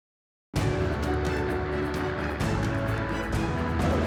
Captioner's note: helicopter whir; bold music